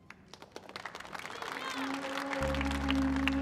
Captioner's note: audience applauding